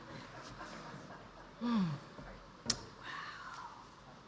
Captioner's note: audience laughs